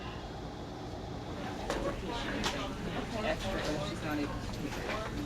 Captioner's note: chattering